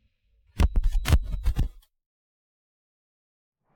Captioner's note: mechanical clicking